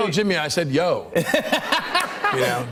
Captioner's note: laughter